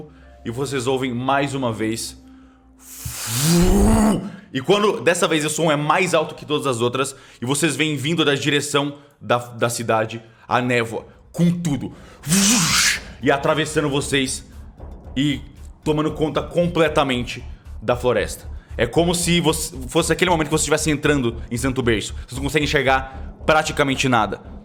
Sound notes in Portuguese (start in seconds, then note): 12.2 Vuusshhh